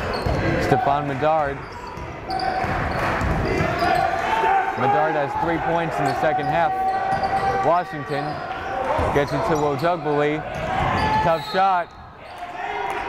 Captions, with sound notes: Stephon Medard. (yelling) Medard has three points in the second half, Washington gets it to Ojugbele, tough shot, foul was called.